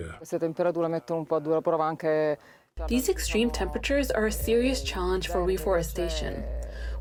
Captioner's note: through translator